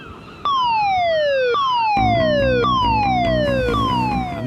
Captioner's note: alarm blaring